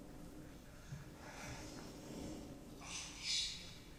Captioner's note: person breathing heavily